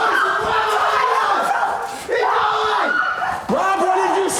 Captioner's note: everyone shouting